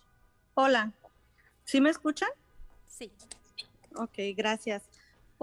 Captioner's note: speaking Spanish